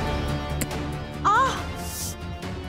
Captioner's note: grunts